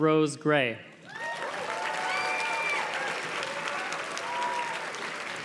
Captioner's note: audience cheers and claps